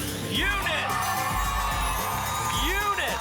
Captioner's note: applause and cheering